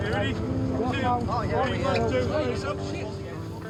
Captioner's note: people chattering